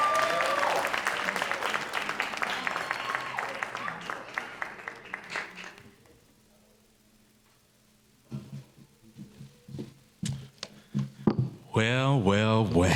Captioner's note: cheers and applause